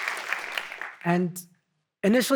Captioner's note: audience applauding